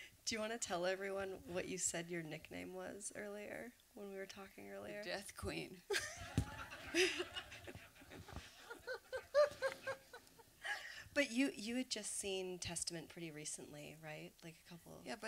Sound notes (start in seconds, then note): 5.8 laughter